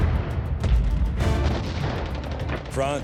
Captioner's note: gunfire